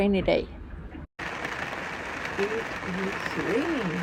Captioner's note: rain drumming